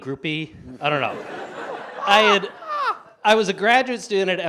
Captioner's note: audience laughs